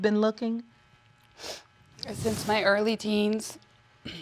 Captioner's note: sniffling